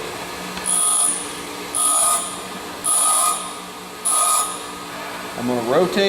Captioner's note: metal buzzing against grinder